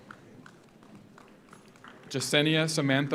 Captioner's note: audience applauds